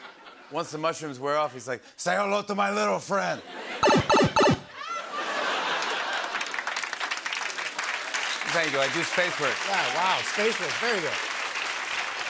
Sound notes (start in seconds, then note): 0.0 laughter; 3.8 Mario shrinking sound; 4.7 laughter and applause